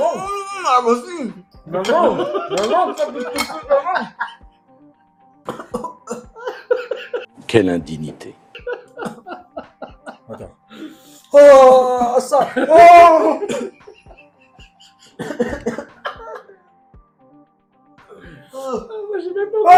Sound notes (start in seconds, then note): 8.3 laughs; 8.3 screams in pain